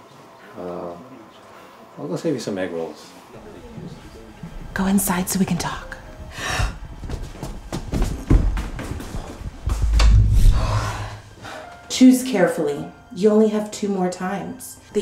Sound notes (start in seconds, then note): 6.3 Ashley gasps; 9.7 Liz whooshes